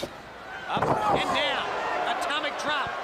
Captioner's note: crowd chatter